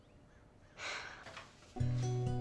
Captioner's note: sighing; soft guitar music